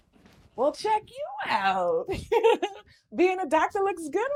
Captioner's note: laughing